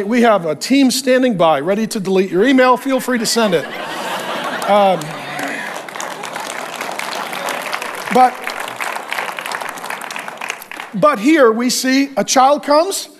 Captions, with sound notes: we have a team standing by ready to delete your email, feel free to send it. (congregation applauds) But here we see a child comes, and it's a blessing.